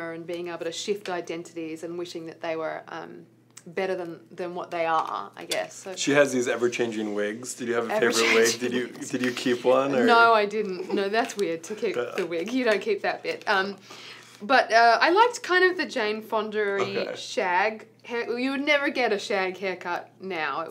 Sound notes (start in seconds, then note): 9.8 laughs